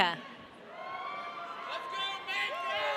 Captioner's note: audience cheering